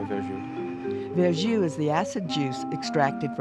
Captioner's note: voiceover